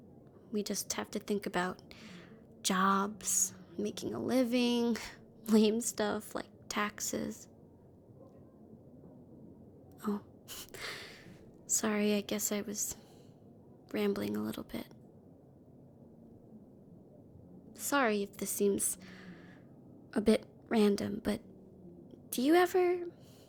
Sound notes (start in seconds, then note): 10.6 breath